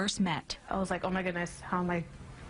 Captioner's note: voiceover